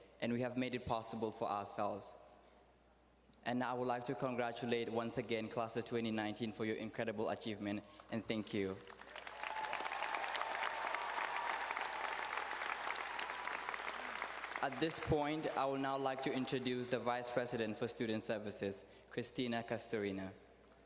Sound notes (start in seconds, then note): 8.8 audience cheering and applauding